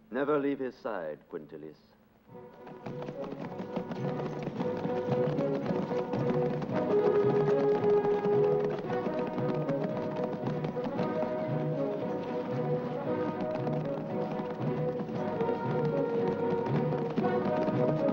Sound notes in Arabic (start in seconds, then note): 2.3 صوت حوافر الخيول; 2.4 موسيقى درامية; 17.9 موسيقى درامية